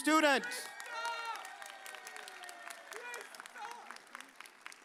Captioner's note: audience cheers